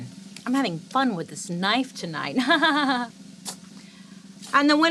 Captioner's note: laughs